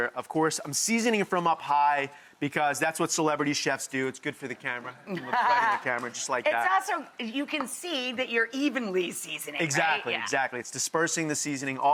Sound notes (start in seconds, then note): 5.1 laughs